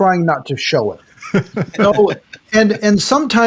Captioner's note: laughing